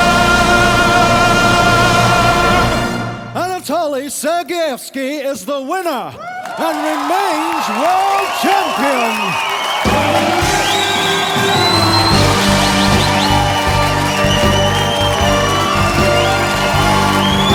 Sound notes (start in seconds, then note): 9.8 crowd applauds